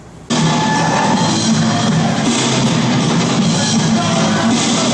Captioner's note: crowd noise